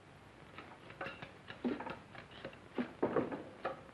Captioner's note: tools clattering